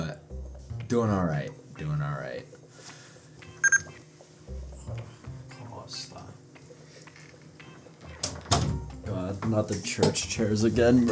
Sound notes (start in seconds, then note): 3.5 bebeep